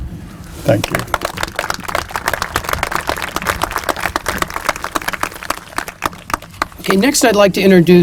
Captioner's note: applause